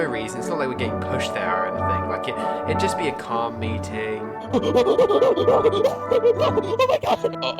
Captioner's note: hyperventilates